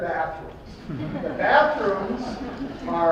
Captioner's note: laughing